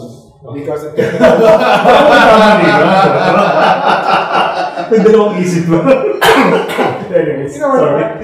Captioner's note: laughter